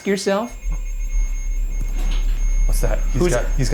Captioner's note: machine beeping